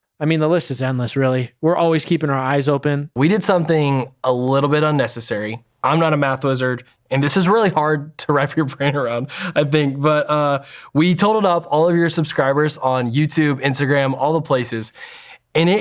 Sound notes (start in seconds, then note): 8.6 chuckles